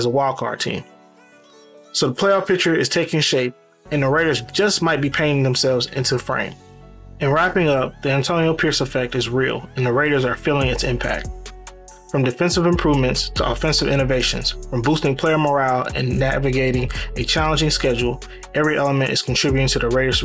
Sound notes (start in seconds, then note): 12.6 voiceover